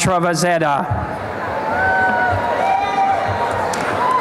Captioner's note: applause and cheering